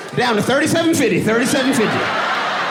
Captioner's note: audience laughing